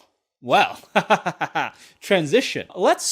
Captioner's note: laughs